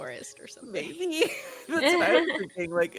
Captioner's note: Hortense laughs